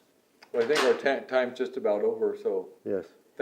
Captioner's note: door shuts